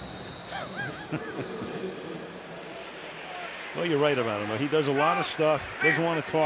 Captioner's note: laughs